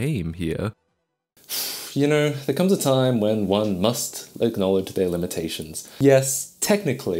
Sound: exhales

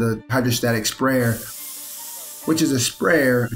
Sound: device sprays

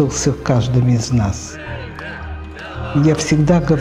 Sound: people chanting

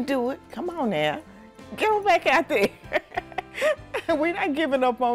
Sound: laughs

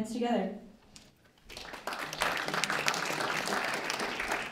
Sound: applause

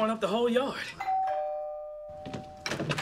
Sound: door ringbell

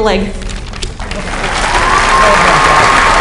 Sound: applause

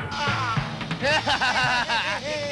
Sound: laughs

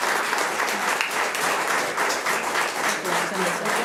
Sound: audience applauds

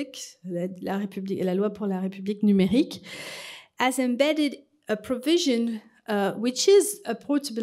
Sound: french

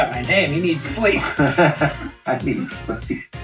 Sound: laughing

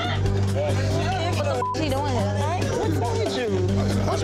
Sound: anxious drumbeat; beep

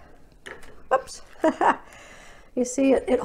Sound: laughs

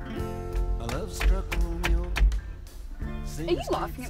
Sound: debbie laughs

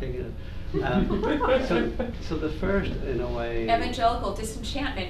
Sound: laughter

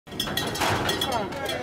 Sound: bell rattling; murmuring

